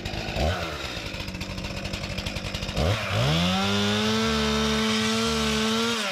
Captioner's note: motor running